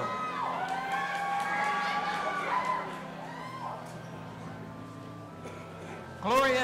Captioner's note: audience applauding and cheering